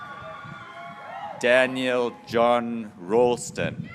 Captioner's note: graduates cheering